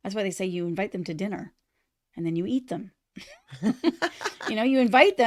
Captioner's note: laughter